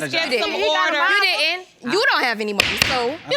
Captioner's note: banging gavel; all arguing